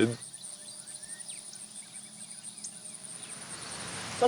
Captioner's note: birds call